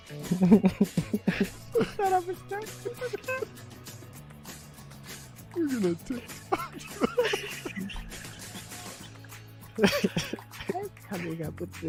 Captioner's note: laughter